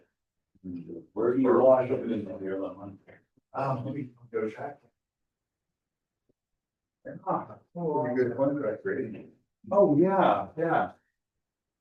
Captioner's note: classroom discussion